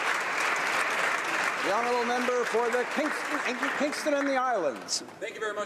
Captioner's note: applause